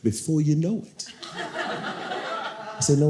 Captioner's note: audience laughing